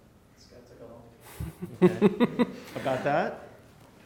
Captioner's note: laughs